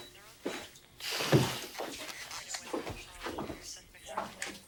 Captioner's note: footsteps thudding